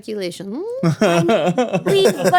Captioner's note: laughing